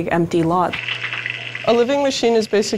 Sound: sound of water

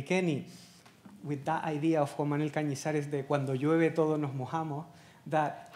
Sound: speaking Spanish

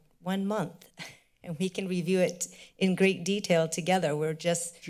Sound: chuckles

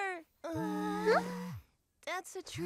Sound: gasps; phone vibrates

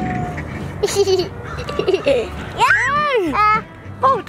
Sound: giggles and screams

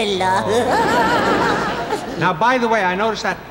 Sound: laughing

